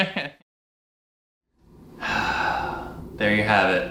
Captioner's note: laughing